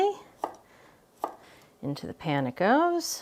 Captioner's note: knife clicking